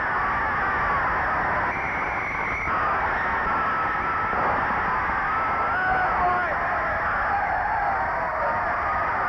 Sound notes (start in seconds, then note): 1.6 referee whistling; 4.2 gun firing; 5.5 crowd cheering